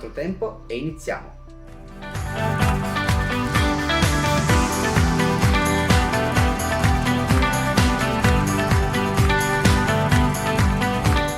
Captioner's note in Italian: Applauso